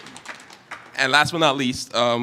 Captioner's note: applause